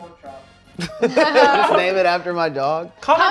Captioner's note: laughter